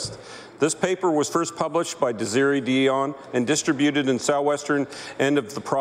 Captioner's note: speaking French